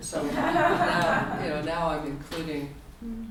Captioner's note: audience laughter